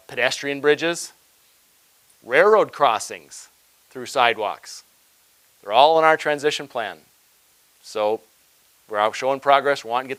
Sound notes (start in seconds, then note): none